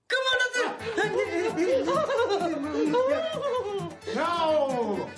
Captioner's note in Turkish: Bağrışmalar